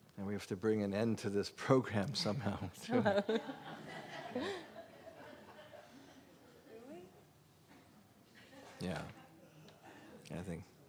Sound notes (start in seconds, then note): 2.8 laughter